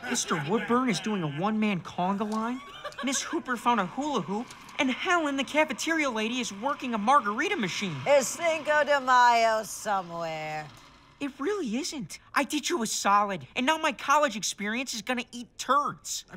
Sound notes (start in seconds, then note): 8.2 machine whirring